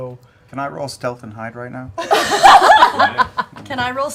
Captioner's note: laughter